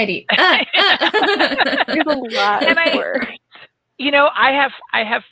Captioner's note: all laugh